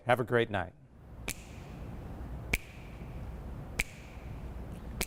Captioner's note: snapping fingers